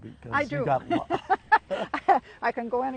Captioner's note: laughs